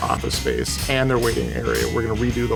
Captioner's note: sharp hammering